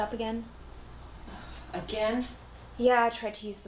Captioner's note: sighs